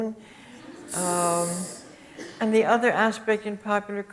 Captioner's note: audience chuckles